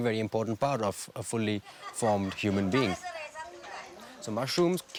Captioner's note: villagers chattering